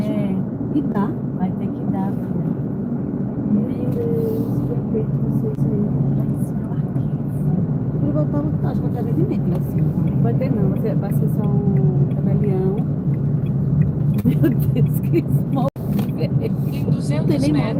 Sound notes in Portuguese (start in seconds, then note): 14.2 risadas